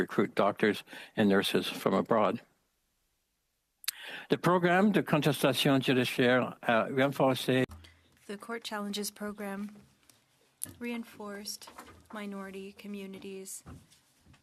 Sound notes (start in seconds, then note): 9.7 speaking French